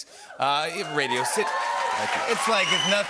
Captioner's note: cheers and applause